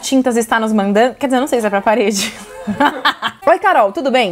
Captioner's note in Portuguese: risos